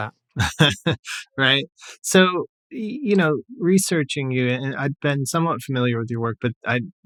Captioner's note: laughter